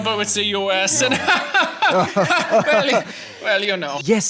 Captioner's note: Merkel and Macron laugh